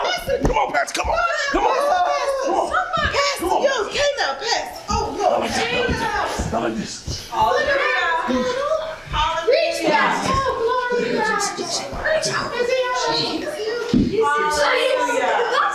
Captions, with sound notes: Come on, pastor. Come on! (Indistinct chatter)